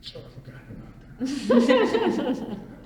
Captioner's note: all laugh